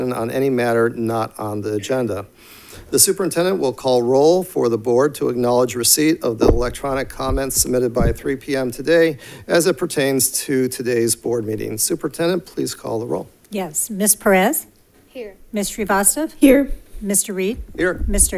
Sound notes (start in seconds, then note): none